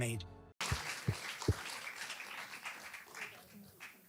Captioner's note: audience applause